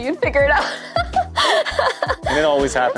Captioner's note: laughing